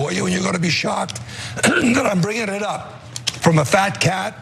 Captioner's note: cough